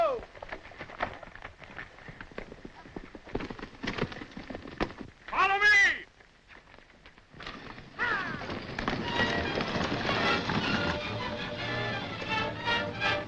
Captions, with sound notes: - Ho! (hooves galloping) Follow me! - Ha! (hooves thundering) (suspenseful music)